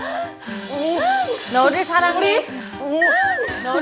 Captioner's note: suddenly copying the breathing?